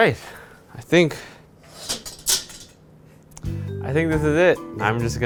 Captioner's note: metal clattering